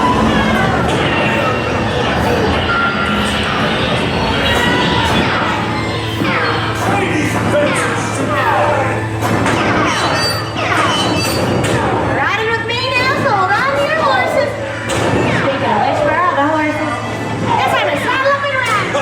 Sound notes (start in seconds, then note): 5.8 shooting sounds